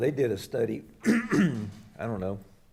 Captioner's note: clears throat